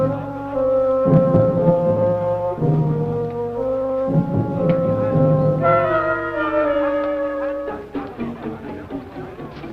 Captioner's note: soldiers chattering